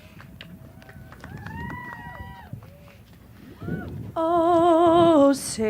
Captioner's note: applause